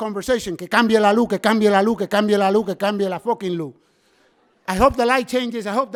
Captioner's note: speaking in foreign language